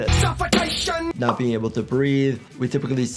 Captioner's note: image pops